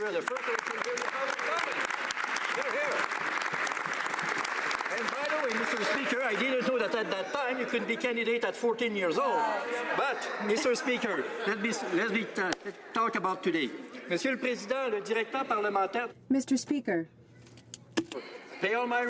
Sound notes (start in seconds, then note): 4.6 some Applause